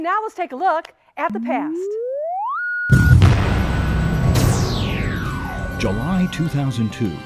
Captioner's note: sound Effects